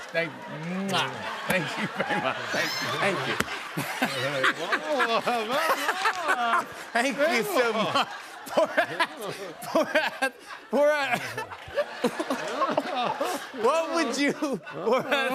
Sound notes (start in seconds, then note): 3.9 laughter; 11.8 laughs